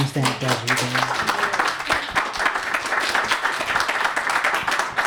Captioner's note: applause